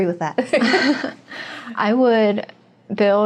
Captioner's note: chuckles